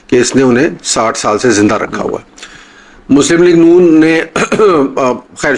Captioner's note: clears throat